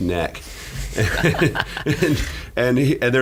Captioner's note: laughing